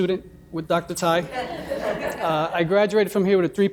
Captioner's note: laughing